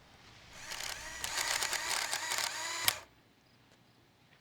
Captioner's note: whirring